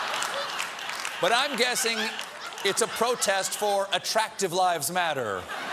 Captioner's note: laughter